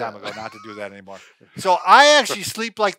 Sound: chuckles

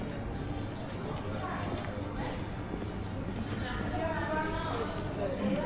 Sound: people chattering

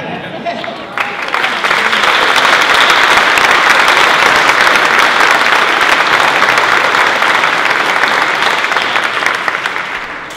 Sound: applause

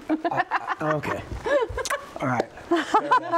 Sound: laughs

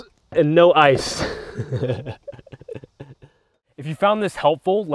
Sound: laughs

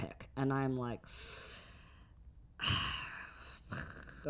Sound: Jes sighing

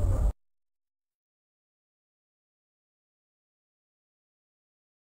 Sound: silence

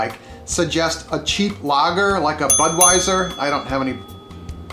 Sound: dinging

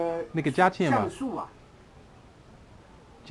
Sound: mandarin

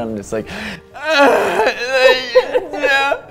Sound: wailing

